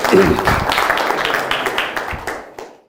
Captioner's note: audience applause